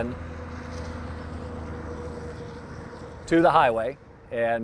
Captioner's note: tractor-trailer droning